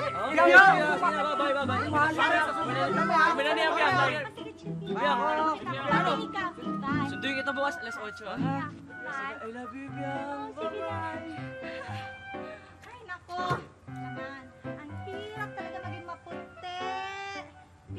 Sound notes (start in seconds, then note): 11.5 exhales